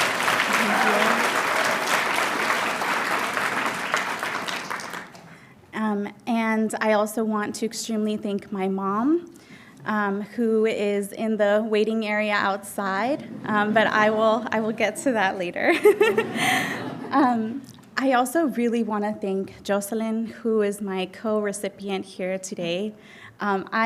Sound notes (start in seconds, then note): 0.0 audience applauding; 16.9 laughing